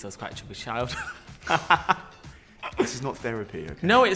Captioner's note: laughter